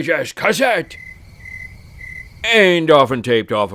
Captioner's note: crickets chirping